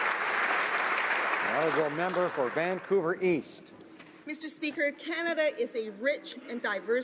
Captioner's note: applause